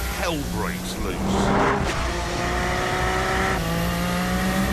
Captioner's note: engine roars